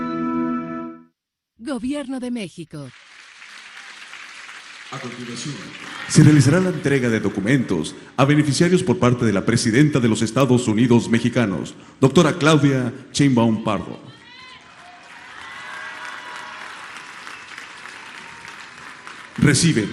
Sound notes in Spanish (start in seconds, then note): 2.9 aplausos